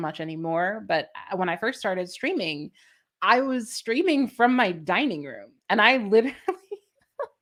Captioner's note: laughter